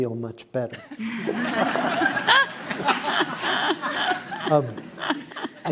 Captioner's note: laughter